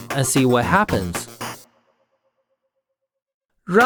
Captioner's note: silence